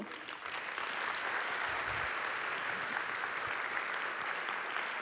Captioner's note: applause